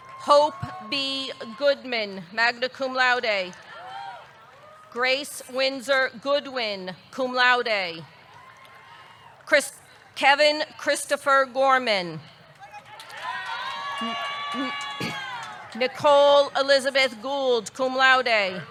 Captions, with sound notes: Hope B. Goodman, magna cum laude. (audience cheering) Grace Wyndsor Goodwin, cum laude. (audience cheering) (audience clapping) Kevin Christopher Gorman. (audience cheering) (audience clapping) Nicole Elizabeth Gould, cum laude.